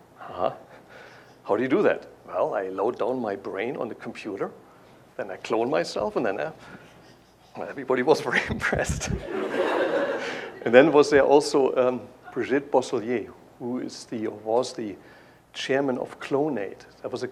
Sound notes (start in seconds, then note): 8.2 laughter